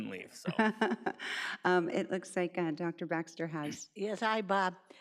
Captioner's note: laughs